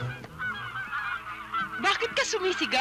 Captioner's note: ducks honking